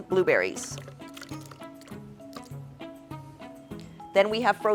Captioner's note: blueberries splashing